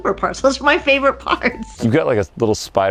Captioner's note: laughs